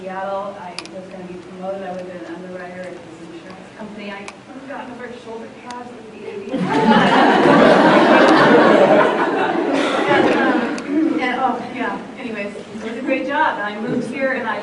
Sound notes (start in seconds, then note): 6.5 laughter